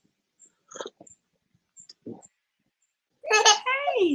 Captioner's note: slurping tea; baby crying